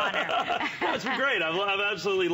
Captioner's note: laughter